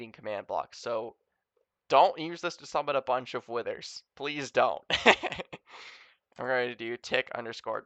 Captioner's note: laughs a little